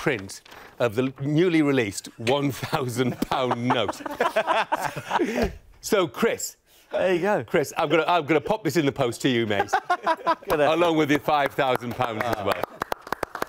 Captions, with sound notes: new print of the newly released £1,000 note (laughs). So Chris, I'm going to pop this in the post to you mate, along with your £5,000 as well (clapping)